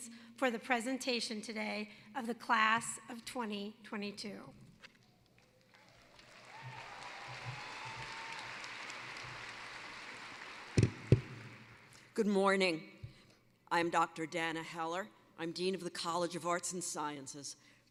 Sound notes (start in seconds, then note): 5.3 applause